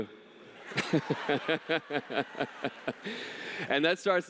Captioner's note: laughter